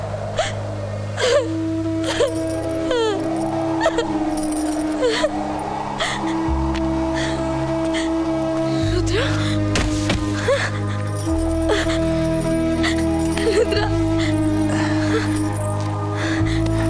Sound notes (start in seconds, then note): 2.0 Crying